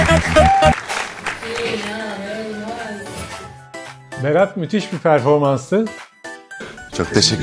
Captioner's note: applause